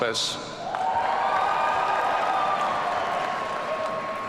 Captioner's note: audience cheering